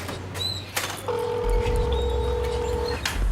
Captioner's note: telephone ringing